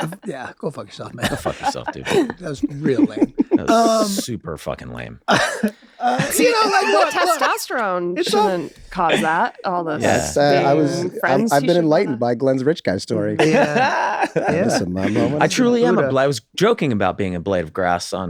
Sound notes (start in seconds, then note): 5.2 Glenn laughs; 13.3 Glenn laughs